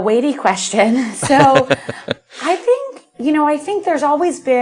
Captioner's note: laughter